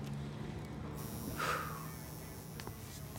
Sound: sighs

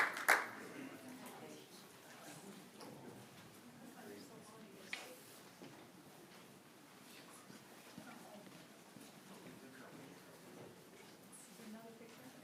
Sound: applause

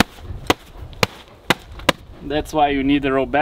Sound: hand slapping

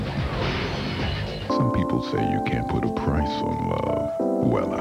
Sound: seductively, in deep voice

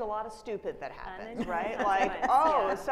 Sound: audience laughing

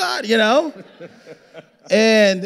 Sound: audience laughing

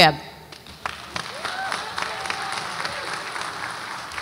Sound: audience applauds

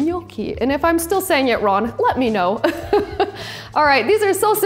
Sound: laughing

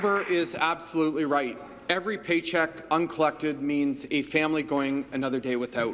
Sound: applause

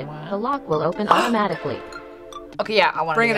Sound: gasps

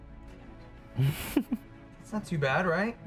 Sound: laughs

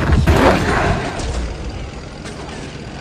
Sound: machine gun fire

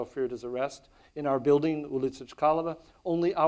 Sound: speaks in foreign language

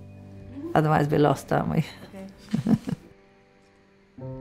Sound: laughs

